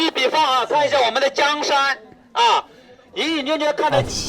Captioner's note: loud chinese on speaker